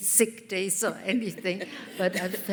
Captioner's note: laughter